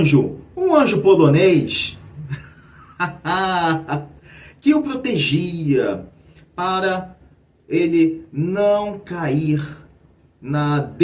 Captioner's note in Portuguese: risadas